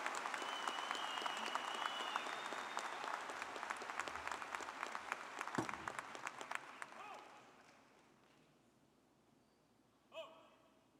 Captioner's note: applause